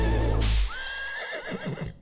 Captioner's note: horse neighs